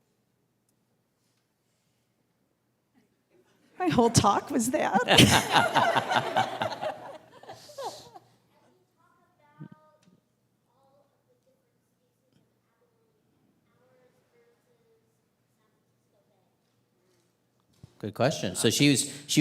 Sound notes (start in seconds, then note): 5.7 all laughing; 11.5 audience member speaking quietly